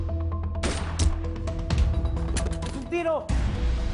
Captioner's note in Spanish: Disparo